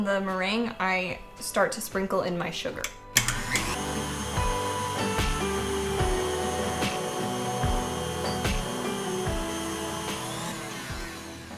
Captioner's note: happy mixer sounds